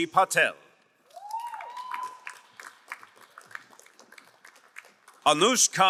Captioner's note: crowd cheering and applauding